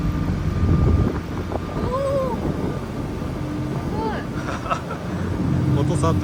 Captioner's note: laughs